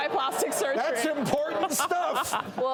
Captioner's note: hosts laughing